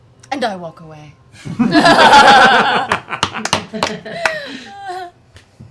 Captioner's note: laughter